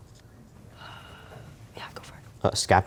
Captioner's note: whispering